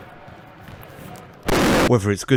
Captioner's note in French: explosion